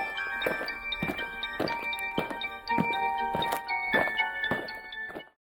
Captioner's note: eerie music; aliens marching